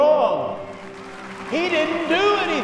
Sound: applause

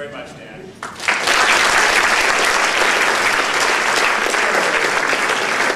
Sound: applause

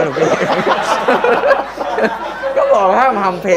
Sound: laughter

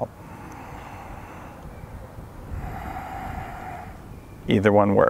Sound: inhaling and exhaling

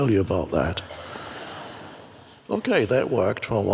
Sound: crowd laughs

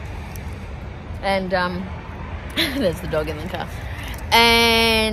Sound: chuckles

